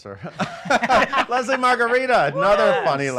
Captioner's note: laughs